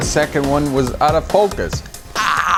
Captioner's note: ahhhhhhhhhhhh - frustrated